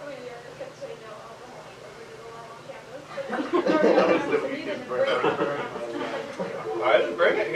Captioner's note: general classroom chatter